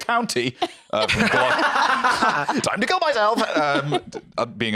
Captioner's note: laugh